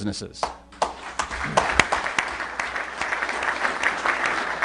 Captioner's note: applause